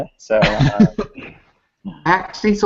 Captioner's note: laughter